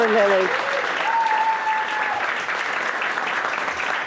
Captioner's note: applause